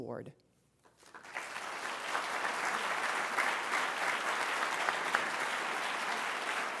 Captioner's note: applause